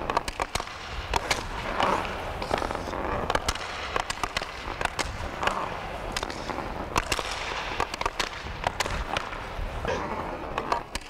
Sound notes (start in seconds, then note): 3.1 stick hitting